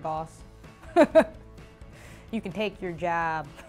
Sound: laughing

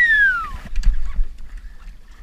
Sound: whistle

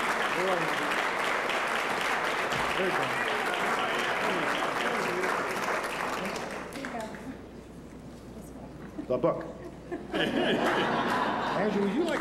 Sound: laughter

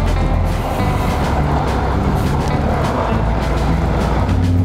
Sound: truck engine roaring

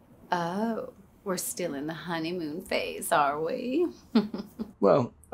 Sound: chuckles

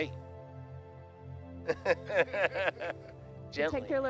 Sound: laughs

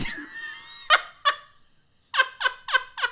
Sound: laughs

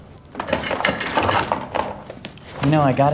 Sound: chair rattles

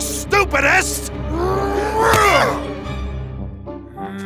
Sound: growls

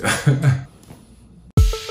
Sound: laughing; upbeat music

